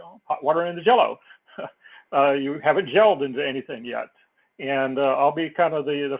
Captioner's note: laugh